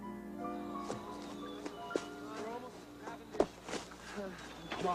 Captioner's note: running noise, men mutter in background